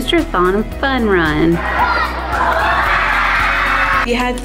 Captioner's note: kids cheering and screaming